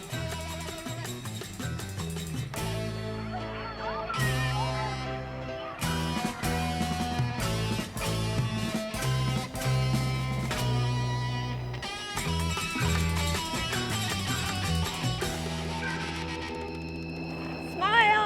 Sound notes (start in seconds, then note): 0.0 upbeat music; 3.1 people chattering; 9.3 upbeat music